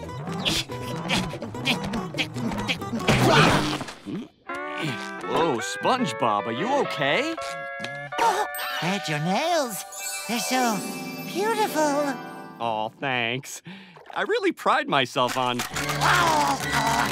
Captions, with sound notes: [grunting] Whoa, SpongeBob, are you okay? [gasping] Fred, your nails. They're so... beautiful. Aw, thanks. I really pride myself on--